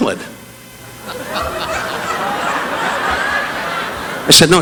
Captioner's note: audience laughing